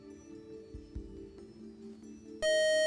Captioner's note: time up buzzer